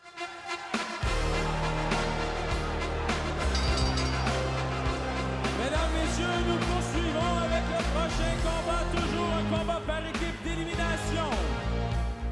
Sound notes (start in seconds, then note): 0.2 upbeat music; 3.7 bell ringing; 5.8 speaking foreign language